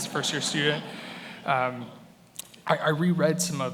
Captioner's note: attendees laughing